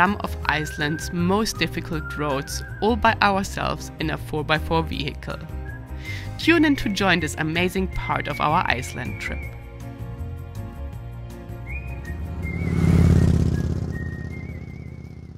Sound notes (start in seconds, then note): 10.1 lively music; 11.3 bike roaring